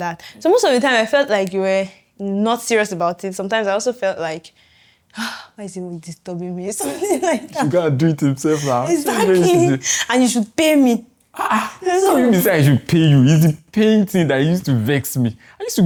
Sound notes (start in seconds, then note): 6.8 laughs